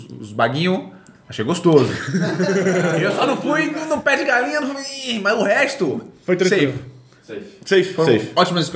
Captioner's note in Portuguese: risos